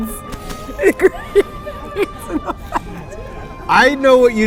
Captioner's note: laughing